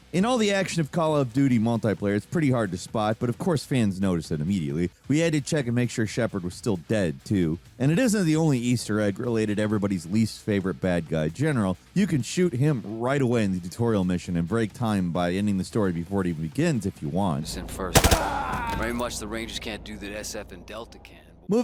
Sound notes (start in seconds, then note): 17.8 gun popping; 17.9 general groaning